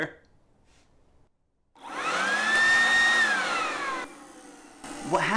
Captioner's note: leaf blower